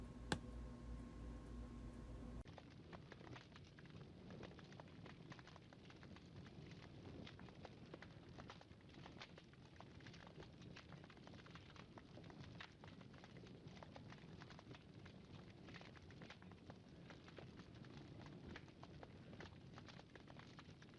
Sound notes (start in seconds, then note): 0.3 tap; 2.5 flame crackling